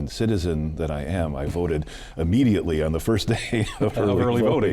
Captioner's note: laughs